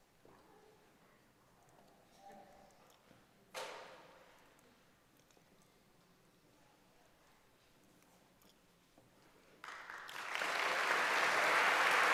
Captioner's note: applause